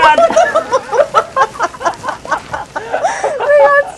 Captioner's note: laughing